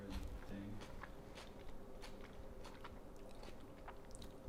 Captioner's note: male voice whispering